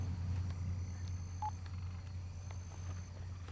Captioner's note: cell phone beeps